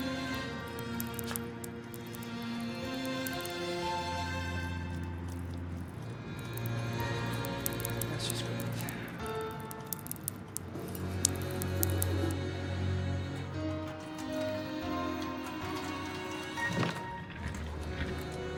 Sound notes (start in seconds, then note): 0.3 water pattering; 13.6 water dripping; 13.6 somber music